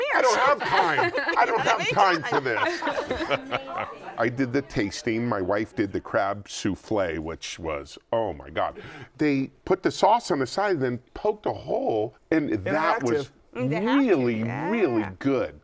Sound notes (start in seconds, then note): 0.1 laughter